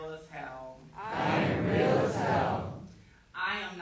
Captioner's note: crowd